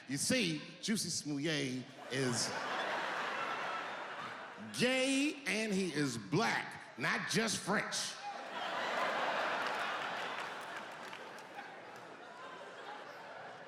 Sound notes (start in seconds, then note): 8.2 audience laughing